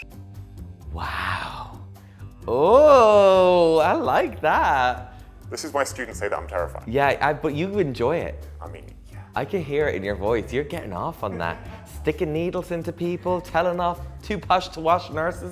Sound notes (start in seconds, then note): 11.1 laughing